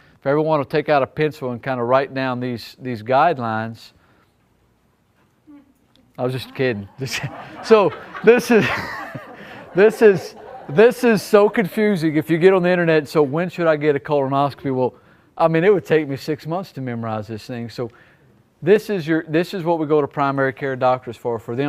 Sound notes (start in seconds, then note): 6.3 audience laughing; 8.5 laughs